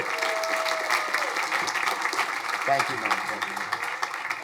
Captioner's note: crowd applauding